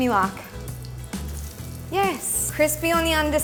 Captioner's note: food sizzles; utensils clanking